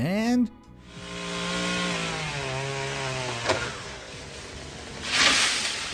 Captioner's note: chainsaw engine buzzing